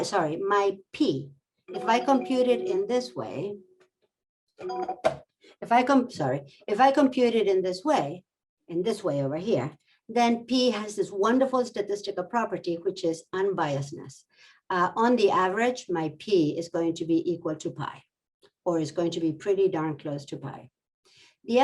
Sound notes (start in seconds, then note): 1.7 bell ringing